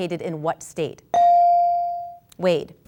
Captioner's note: ding